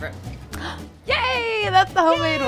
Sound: gasps

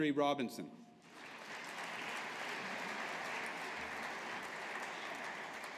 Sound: audience applauding

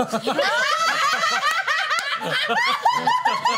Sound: laughter

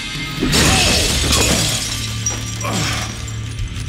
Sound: glass shatters

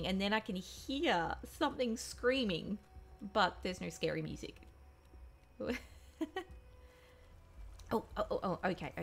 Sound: laughs

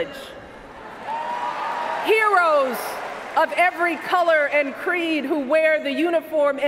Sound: cheers, applause

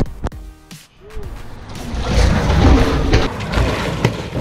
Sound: swhooshing

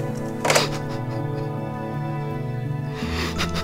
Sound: phone clicking on receiver; Peter whimpering

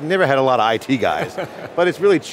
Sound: laughs

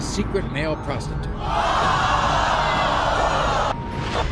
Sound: audience gasping

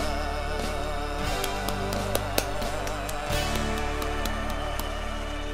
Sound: hands clapping

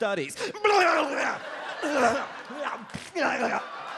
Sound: grunting; audience laughs

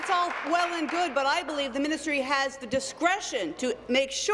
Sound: applause

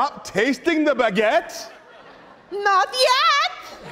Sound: audience laughing

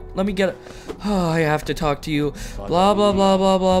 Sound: sigh

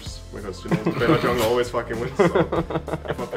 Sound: laughing

